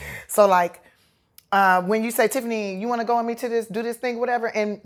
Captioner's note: none